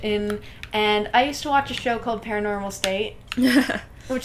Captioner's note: laughter